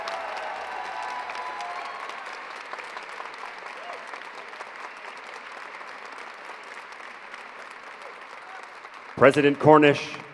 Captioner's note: applause